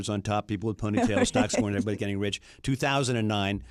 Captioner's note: laughs